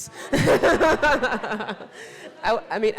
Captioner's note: all laughing